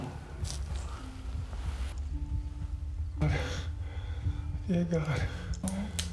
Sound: heartbeat

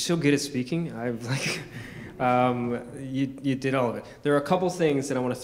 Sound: chuckles

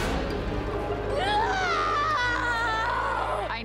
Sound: woman yells

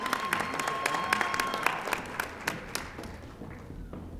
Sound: audience applauding

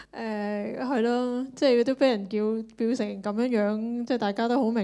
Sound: Cantonese

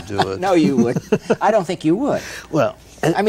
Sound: Ed laughs

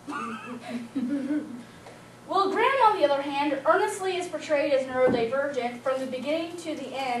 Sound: laughing

